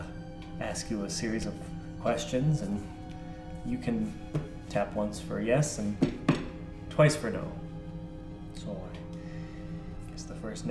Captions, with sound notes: I'll ask you a series of questions, and you can tap once for yes, (taps table) and twice for no. (taps table twice)